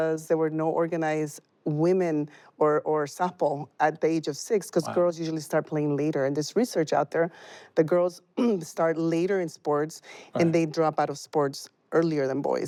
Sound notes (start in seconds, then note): 10.3 ahem